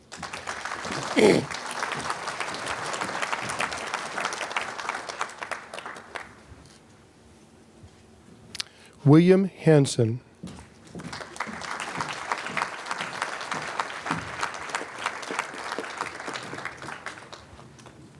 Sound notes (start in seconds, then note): 0.0 applause; 10.9 applause